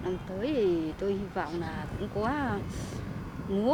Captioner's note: speaking Vietnamese